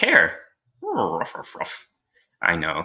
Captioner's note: confused dog noises